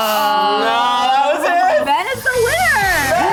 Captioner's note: all exclaim